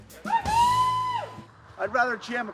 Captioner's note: cheering